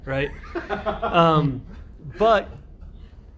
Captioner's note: laughter